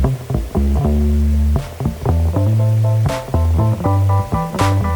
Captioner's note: base guitar music; water whooshing